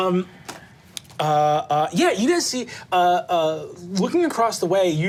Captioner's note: none